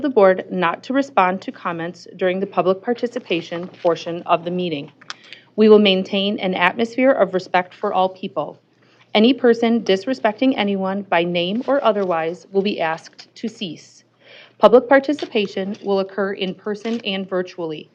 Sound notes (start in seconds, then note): none